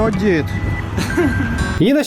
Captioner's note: giggles